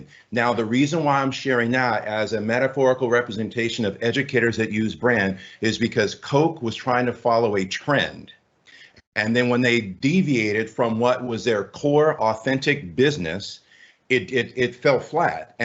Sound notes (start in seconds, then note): none